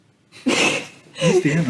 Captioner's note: chuckles